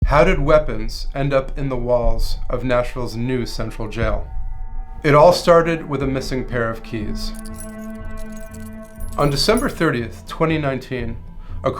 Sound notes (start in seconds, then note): 7.1 keys jingling